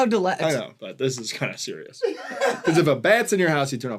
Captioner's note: laughter